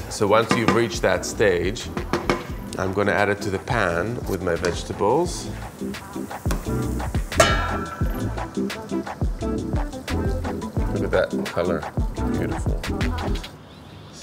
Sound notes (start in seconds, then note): 5.5 upbeat music; 5.5 veggies sizzling